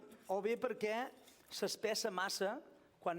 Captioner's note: non-english speech